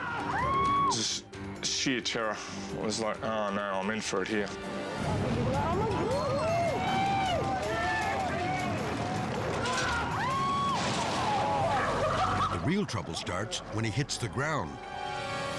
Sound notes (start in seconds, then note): 5.4 people cheering; 9.4 people screaming; 11.5 people laughing